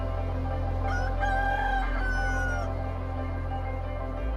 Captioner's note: rooster crows